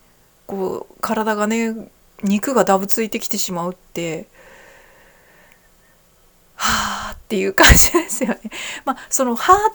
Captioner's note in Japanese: 笑い